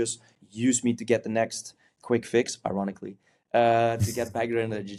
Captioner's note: chuckles